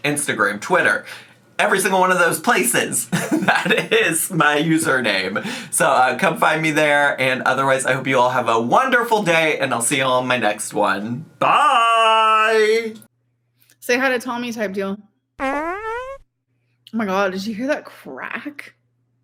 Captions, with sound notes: Instagram, Twitter, every single one of those places. (laughing) That is my username. So come find me there. And otherwise, I hope you all have a wonderful day, and I'll see you on my next one. Bye! - Say hi to Tommy type deal. (fart whines) Oh my God, did you hear that crack?